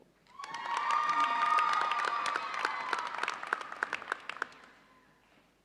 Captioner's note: audience cheers and applauds